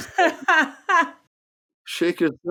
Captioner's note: laughing